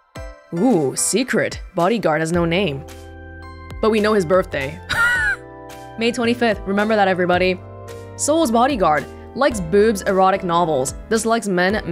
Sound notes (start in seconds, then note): 4.9 chuckles